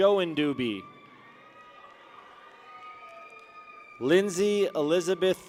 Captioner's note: people cheer